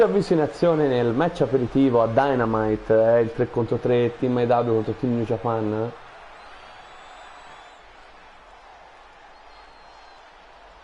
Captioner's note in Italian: Applauso